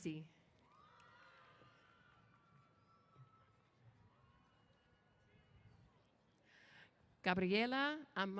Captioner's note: cheers